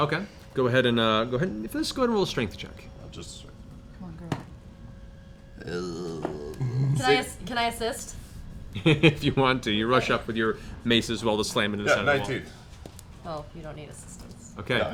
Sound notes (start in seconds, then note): 5.5 strained wince; 8.7 laughs